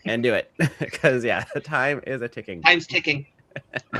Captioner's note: chuckles